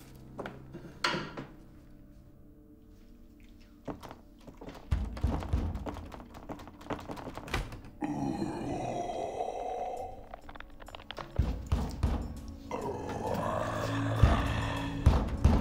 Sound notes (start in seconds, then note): 4.9 pounding on door; 8.0 mummy growling; 10.3 suspenseful music; 11.4 pounding on door; 12.6 mummy growling